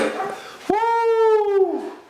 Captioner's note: objects clanking